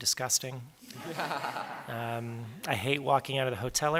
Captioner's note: laughter